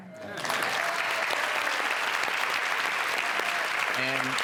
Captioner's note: applause